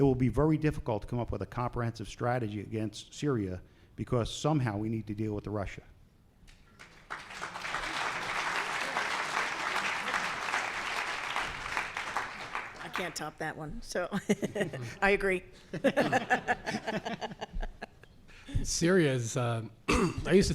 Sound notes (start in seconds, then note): 6.7 applause; 15.7 laughs